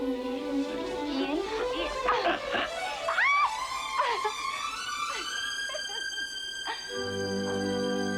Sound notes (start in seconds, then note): 1.4 Jessie yelling; 4.5 Jessie laughing